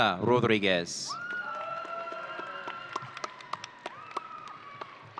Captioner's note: audience cheering